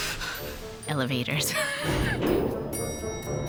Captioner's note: hyperventilating; chuckles